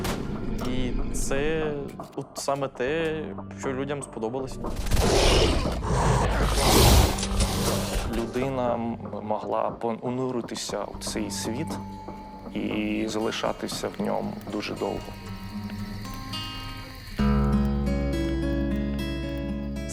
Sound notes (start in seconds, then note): 5.0 creatures roaring; 17.1 gentle guitar music